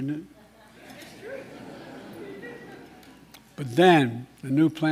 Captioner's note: laughter